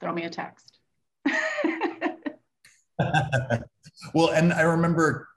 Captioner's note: laughing